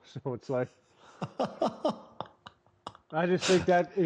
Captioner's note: laughter